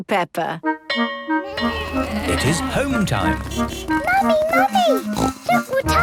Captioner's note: bell clanging; honking